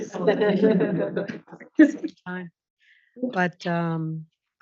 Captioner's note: audience laughs